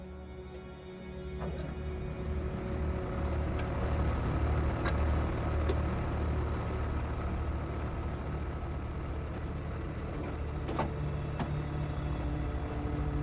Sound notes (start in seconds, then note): 0.3 ominous music continues; 3.5 engine sputters to life